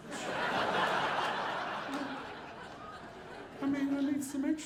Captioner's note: audience laughing